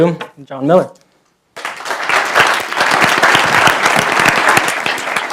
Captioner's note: applause